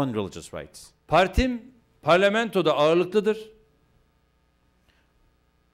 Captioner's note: non-english speech